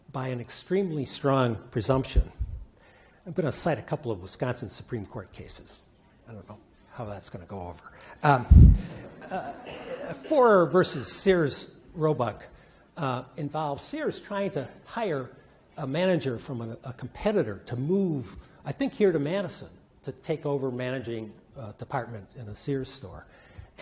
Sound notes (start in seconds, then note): 9.3 attendees laugh